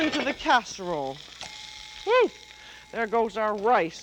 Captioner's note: bell dings